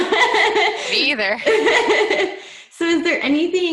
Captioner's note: laughs